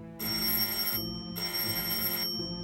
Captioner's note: doorbell ringing